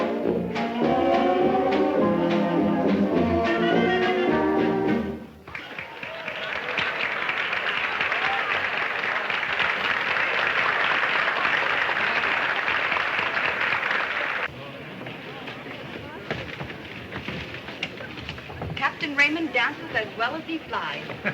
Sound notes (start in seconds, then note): 0.0 lively band music; 5.7 people applauding